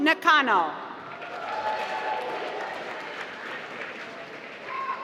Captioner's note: applause